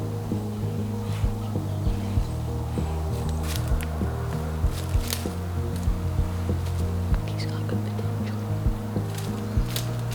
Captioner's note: whispering